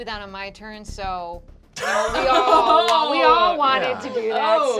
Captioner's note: laughing